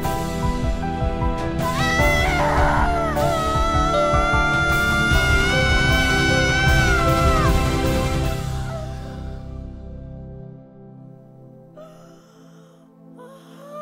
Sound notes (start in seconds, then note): 1.7 screaming